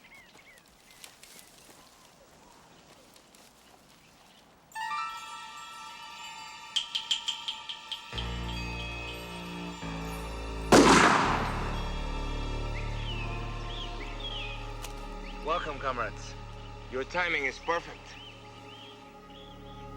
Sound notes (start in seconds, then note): 5.1 dramatic music; 10.7 gun firing